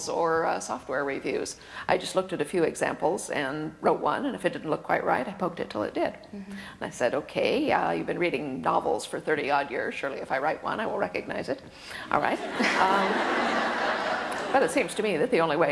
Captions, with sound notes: or software reviews. I just looked at a few examples and wrote one, and if it didn't look quite right, I poked it until it did. I said, "OK, I've been reading novels "for 30-odd years, surely if I write one, "I will recognize it." (laughter) But it seems to me that the only way